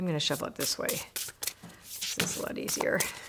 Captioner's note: cards rustle